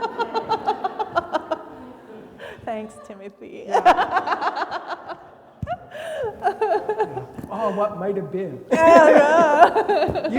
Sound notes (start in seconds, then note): 2.4 laughing; 8.6 laugh